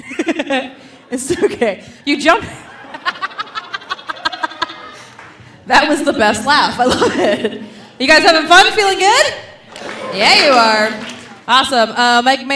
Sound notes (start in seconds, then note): 2.6 laughs; 2.8 laughing